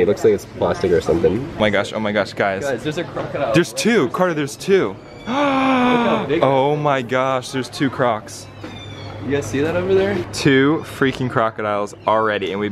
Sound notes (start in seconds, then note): 5.2 gasps